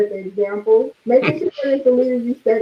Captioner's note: laughing